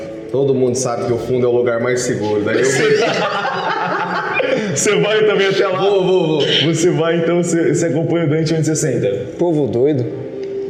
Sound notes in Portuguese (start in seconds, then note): 2.5 risadas